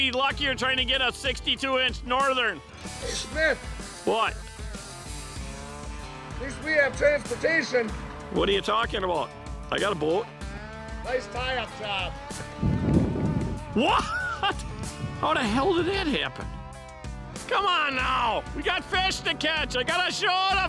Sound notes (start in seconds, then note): 13.2 laughing